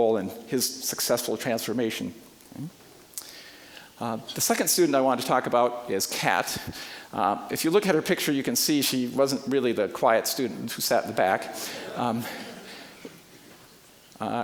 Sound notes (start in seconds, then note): 11.6 audience laughing